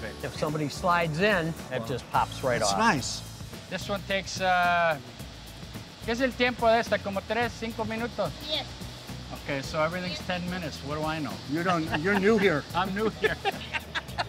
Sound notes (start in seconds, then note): 5.9 speaking in Spanish